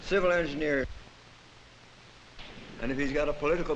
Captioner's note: silent